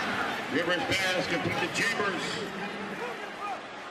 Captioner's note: pa announcement